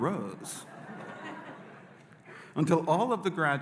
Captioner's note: audience laughing